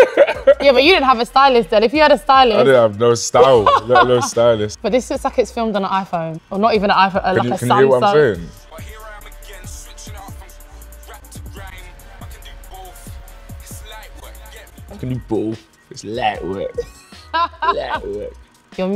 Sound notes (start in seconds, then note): 0.0 laughing; 16.6 laughing